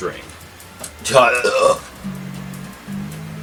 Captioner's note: fUnNY bUrP